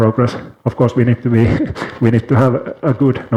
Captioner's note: chuckles